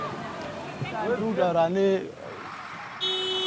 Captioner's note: man speaking in foreign language; bus horn blaring